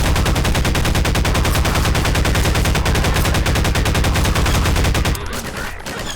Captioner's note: gunfire